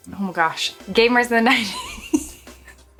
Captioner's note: giggles